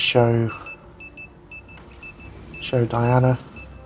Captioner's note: brain fizzing